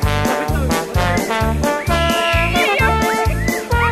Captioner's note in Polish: piski dziewcząt